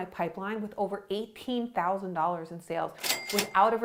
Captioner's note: cash register ringing